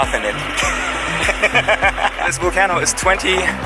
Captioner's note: laugh out loud